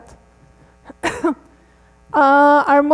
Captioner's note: coughs